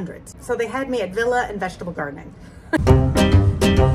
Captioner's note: chuckles; upbeat Italian folk music